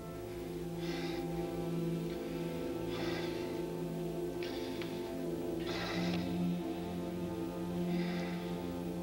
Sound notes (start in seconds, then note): 0.0 restless breathing